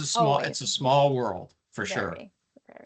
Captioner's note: chuckling